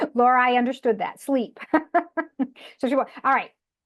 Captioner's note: laughs